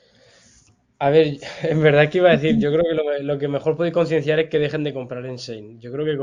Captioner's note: laughs